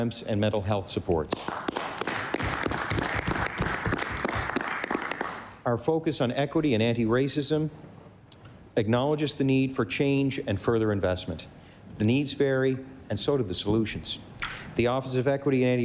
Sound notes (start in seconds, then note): 3.7 applause